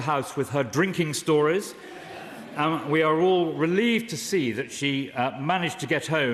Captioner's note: laughter